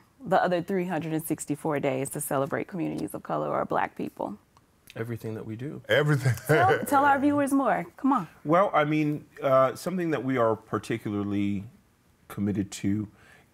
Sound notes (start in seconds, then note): 6.1 laughs